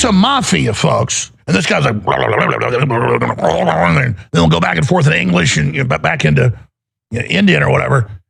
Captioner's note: gutteral noises